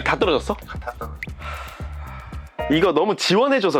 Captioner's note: deep sigh